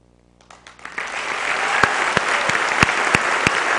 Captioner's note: applause